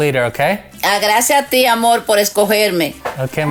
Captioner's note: speaks foreign language